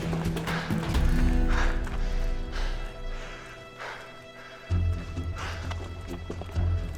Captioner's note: panting